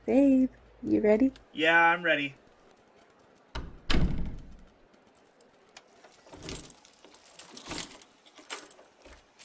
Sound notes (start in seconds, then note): 3.5 door close; 6.1 door locks